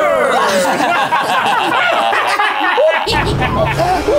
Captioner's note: all laughing